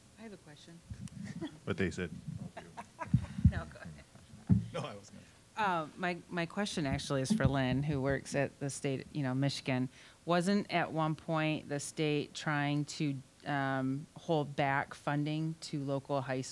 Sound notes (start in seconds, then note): 1.1 laughing; 4.8 chuckling